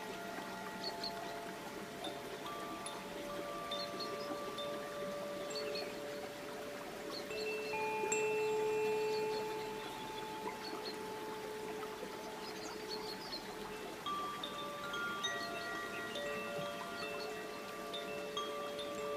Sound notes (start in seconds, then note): 3.5 bells lightly chiming; 3.5 water babbling